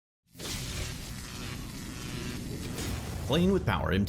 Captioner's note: logo swooshing